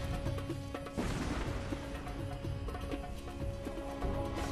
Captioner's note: gunshots